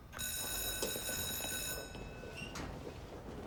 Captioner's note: school Bell Rings